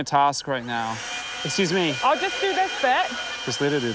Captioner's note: leaf blower whirrs